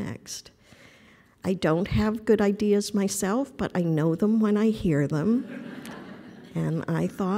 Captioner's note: laughter